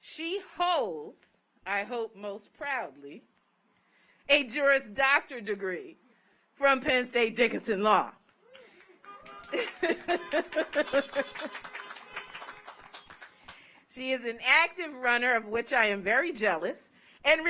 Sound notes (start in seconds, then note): 8.3 car horns honking; 8.4 audience applauds